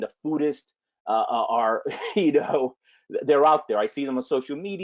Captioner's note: laughs